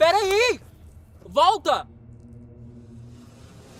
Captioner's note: foreign language